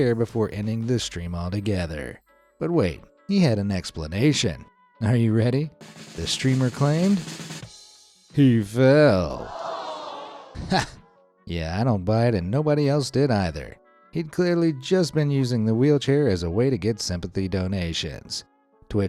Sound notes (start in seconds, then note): 5.8 drums rolling; 7.4 cymbal crashing; 9.4 audience groans